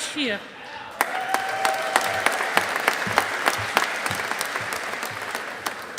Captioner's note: audience applauding